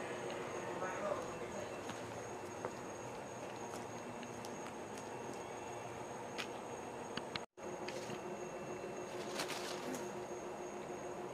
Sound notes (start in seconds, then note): 9.0 rustling in the bushes